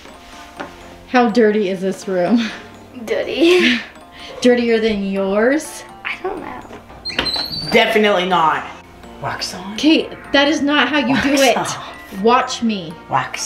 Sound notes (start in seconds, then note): 6.6 door creaks